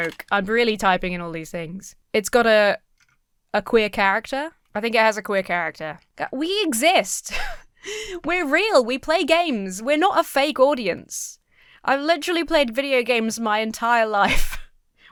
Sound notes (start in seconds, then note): 7.1 wheezes